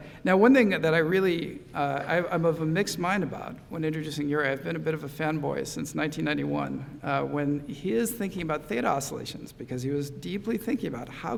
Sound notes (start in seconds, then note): none